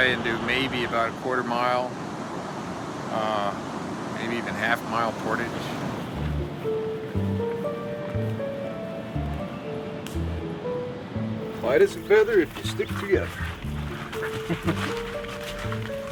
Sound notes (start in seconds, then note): 6.4 soft music; 11.6 footsteps crunching; 13.5 soft music